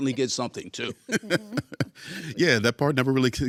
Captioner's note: laughing